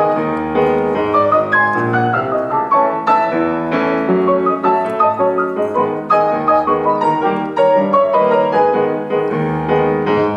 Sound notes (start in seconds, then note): none